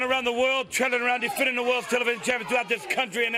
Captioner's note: crowd cheering